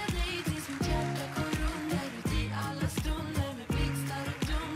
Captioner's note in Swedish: Applåder och musik